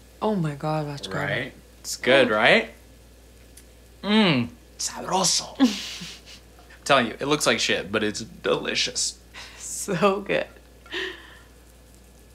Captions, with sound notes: - Oh, my God, that's good. - Right? It's good, right? Mm! (speaks foreign language) (Sam chuckles) I'm telling you, it looks like shit, but it's delicious. - So good.